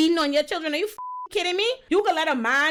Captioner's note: beep